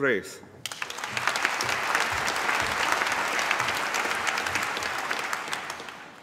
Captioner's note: applause